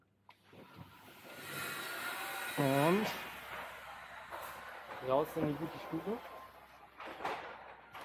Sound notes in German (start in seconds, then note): 3.3 Baulärm